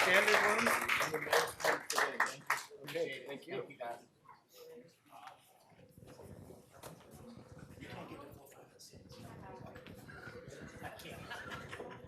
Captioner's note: applause